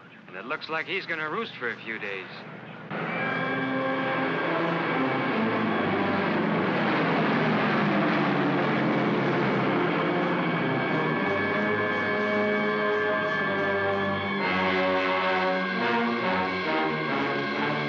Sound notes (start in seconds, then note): 2.8 aircraft roars; 2.8 dramatic ominous music